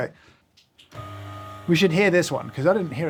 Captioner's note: grinder whirring